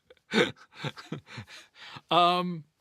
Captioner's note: laughing